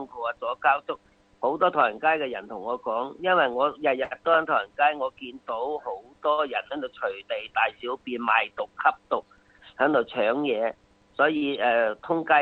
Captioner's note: speaking foreign lan guage